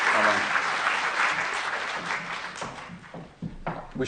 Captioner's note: applause